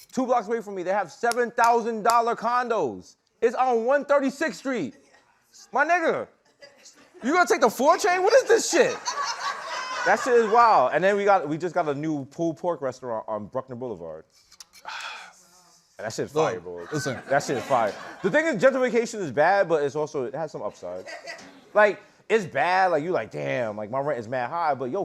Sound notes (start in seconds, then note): 8.6 laughter; 14.8 sighs